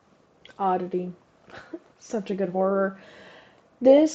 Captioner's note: chuckle